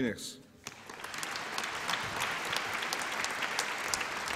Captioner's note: applause